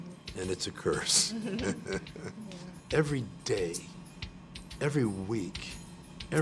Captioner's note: laugh